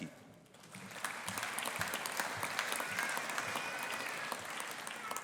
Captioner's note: audience applauding